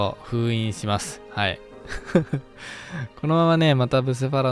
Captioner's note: laughs